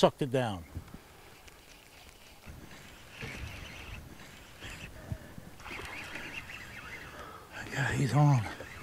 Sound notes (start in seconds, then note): 3.2 reel cranking; 6.0 fish splashing